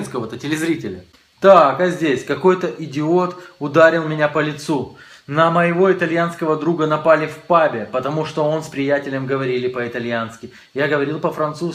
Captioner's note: Italian